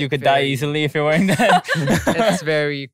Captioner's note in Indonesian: tertawa